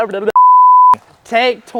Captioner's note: beep